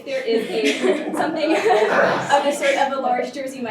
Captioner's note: crowd laughing